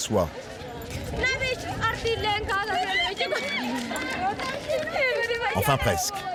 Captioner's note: people chattering